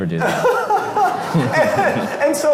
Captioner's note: laughs